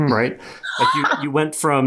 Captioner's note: laughs hysterically